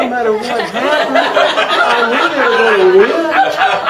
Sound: group laughter

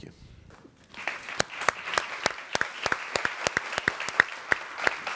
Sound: group applauding

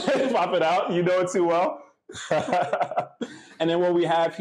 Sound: laughs

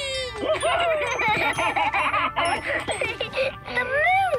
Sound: laughing

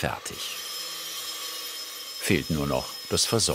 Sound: grinding noises

